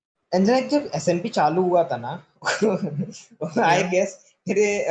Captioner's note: laughs